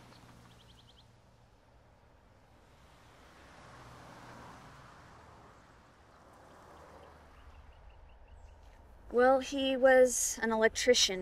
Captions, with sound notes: (traffic hums) (birds chirp) - Well, he was an electrician